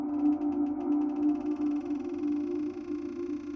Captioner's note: door creaking